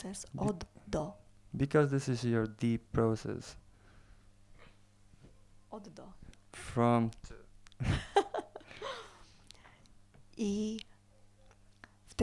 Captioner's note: they laugh